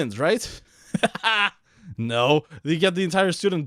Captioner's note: laughs